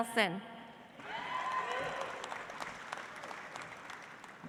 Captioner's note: audience applauds